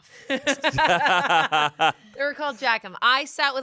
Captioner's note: everyone laughs